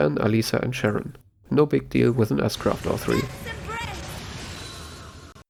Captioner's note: S-Craft noises